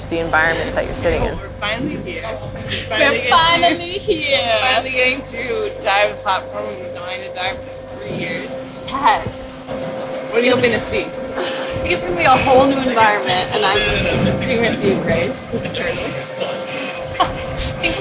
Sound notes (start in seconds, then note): 14.9 machinery clatters